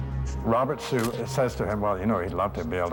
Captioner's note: camera shutter click